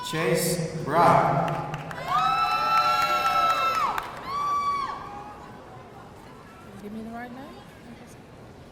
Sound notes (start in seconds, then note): 1.5 audience cheering and applauding